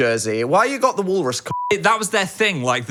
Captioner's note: beep